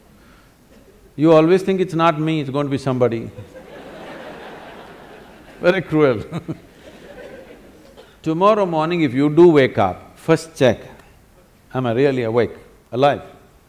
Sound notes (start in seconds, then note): 3.3 laughter; 6.1 laughs